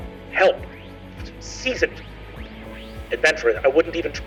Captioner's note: mimics distortion